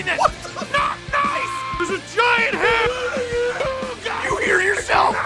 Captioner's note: screaming; Harry potter screaming